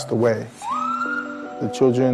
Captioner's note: ambulance siren